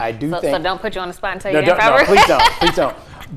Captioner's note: laughing